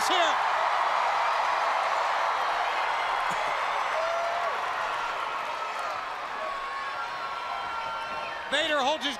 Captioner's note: crowd cheering